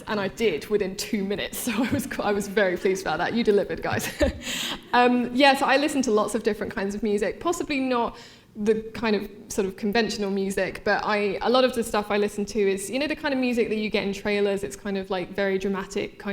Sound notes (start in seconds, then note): 3.9 laughing; 3.9 laughter